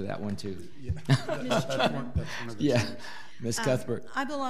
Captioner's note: all laughing